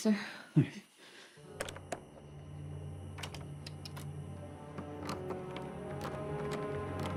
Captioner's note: unsettling music; doorknob rattles